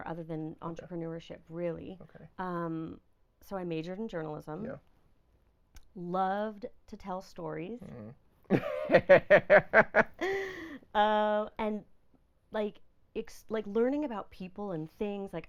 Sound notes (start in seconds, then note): 9.0 laughing